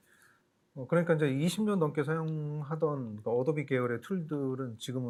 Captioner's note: speaking korean